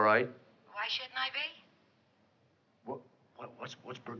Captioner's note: on phone